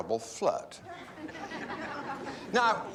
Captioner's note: students laugh